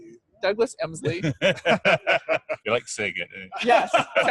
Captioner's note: all laughing